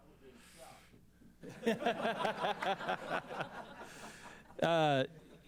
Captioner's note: laughter